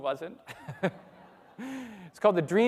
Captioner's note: everybody laughing